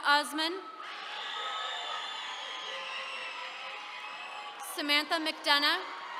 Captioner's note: attendees cheering